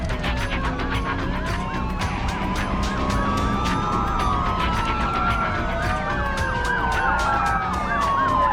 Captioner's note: sirens wailing